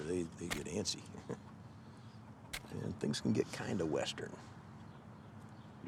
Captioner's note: chuckles